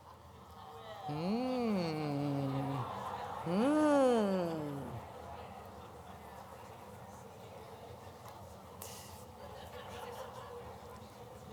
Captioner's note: chatter